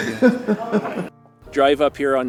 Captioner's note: laughing